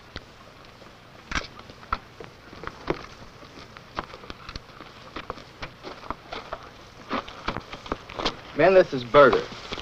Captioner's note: footsteps